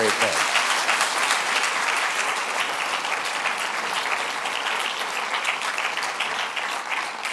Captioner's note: applause